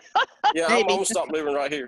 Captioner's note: laughing